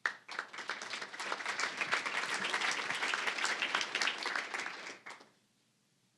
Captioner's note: applause